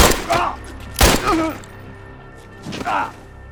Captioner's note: groaning